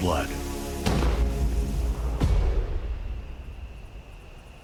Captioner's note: gun fires